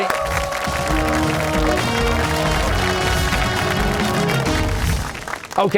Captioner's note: cheers and applause